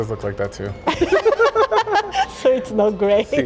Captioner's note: both laughing; speaking Spanish